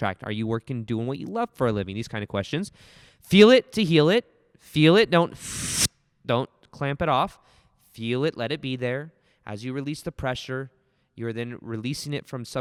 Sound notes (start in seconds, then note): 5.4 makes noise in the mic